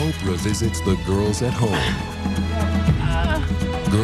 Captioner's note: grunts